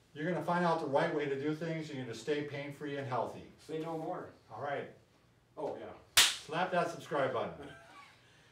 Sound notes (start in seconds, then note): 6.1 hands slapping; 7.6 laughing